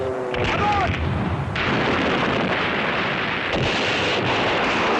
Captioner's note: artillery booming